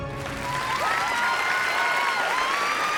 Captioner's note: cheering, applause